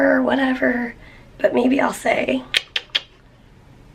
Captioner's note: clicks tongue